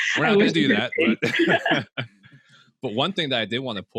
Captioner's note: chuckles